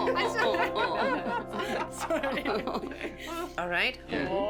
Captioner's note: laughter